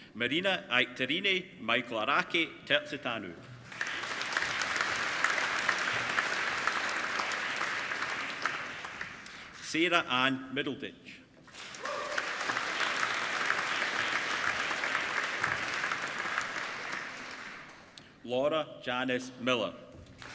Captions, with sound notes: Marina-Aikaterini Michelaraki-Terzitanou (APPLAUDING) Sara Anne Middleditch (APPLAUDING) Laura Janice Miller